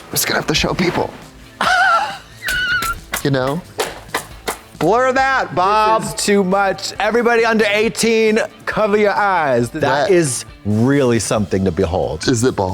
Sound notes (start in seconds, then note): 0.9 Katya hisses